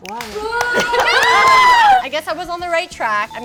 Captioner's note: booing